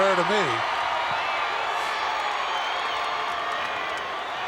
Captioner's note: audience cheering